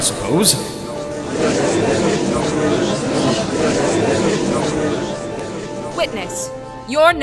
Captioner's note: gallery chattering